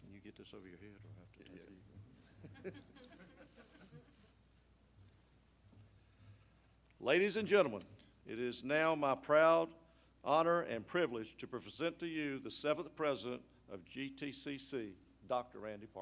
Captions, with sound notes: Can you get this over your head? [LAUGHING] Ladies and gentlemen, it is now my proud honor and privilege to present to you the seventh president of GTCC, Dr. Randy